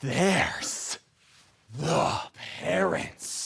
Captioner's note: grunting